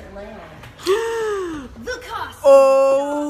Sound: gasping

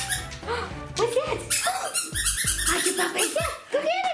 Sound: squeaking

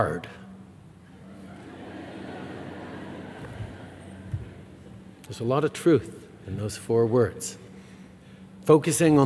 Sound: laughter

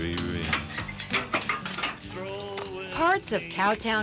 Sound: gate clangs

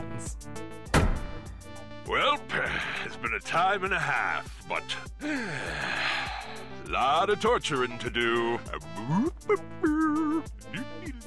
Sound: sighs

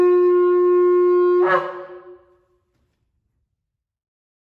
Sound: shofar blast

